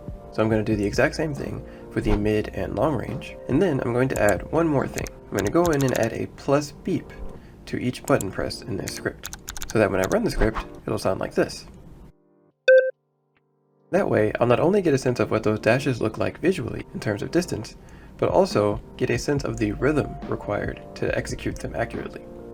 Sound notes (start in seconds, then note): 12.7 two high pitch beeps